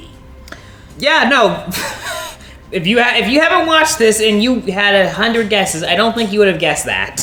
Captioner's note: laughs